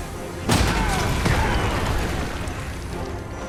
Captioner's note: rocks clattering; blow thudding; dramatic orchestral music